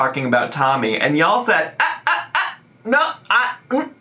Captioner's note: hums